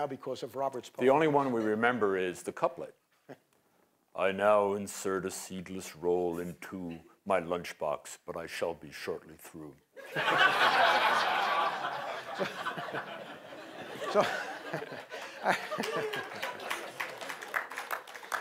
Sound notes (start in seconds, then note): 10.0 laughter; 15.1 applause